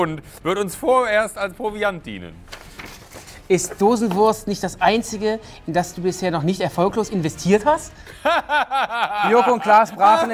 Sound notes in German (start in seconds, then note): 2.4 Rascheln; 8.1 Schallendes Lachen